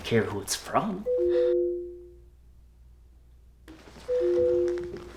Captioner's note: phone ringing